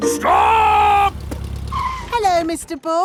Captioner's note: brakes squeal